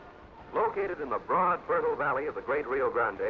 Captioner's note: radio Announcer